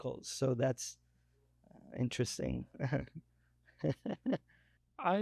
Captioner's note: laughs